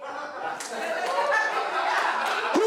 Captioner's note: laughter